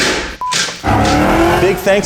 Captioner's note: metal bangs; scene beeps; car revving